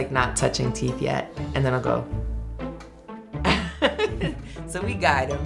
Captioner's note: chuckles